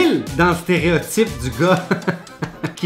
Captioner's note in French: rires